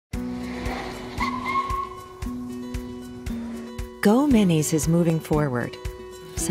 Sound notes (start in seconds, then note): 0.2 brakes squealing; 0.2 upbeat music